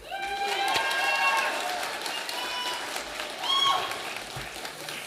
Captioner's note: audience applauding